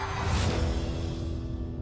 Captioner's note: cheering